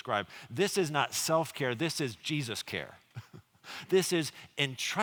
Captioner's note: chuckles